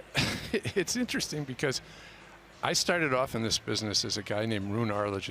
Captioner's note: laughs